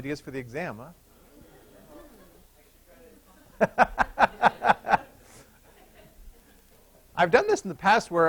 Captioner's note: laughter